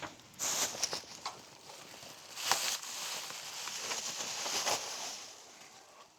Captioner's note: plastic rustling sounds